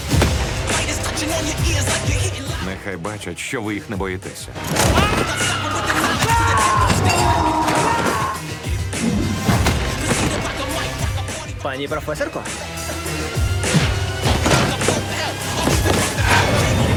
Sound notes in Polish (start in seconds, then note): 4.8 krzyki; 6.6 krzyczy